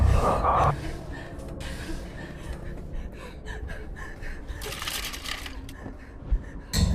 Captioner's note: Heather gasping fearfully; objects clattering